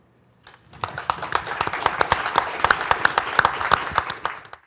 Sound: audience applauds

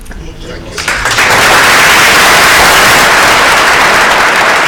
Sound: applause

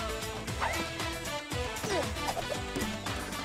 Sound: grunts

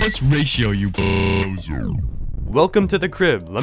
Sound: voice powers down

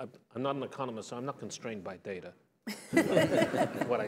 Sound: laughter

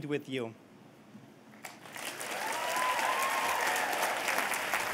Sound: cheers and applause

